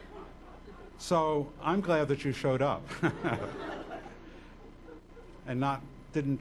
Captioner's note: laughing